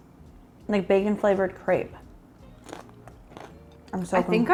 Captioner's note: crunching bacon